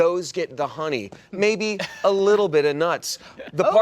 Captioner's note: laughter